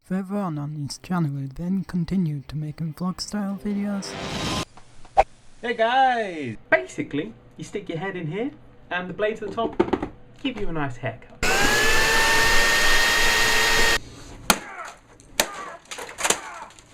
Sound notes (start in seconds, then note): 3.5 woosh